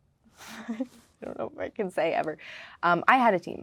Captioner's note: laughing